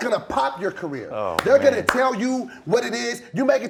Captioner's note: claps hands